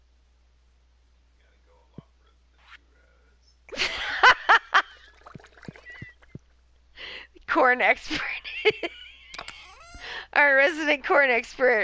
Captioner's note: laughing